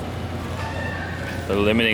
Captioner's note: various sounds in a large store